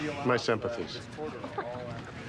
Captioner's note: Lisa laughs